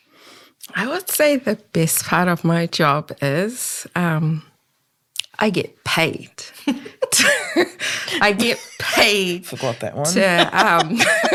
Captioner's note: all laugh